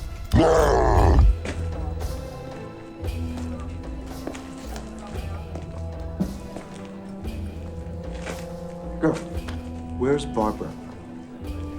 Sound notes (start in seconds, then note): 0.3 indistinct chatter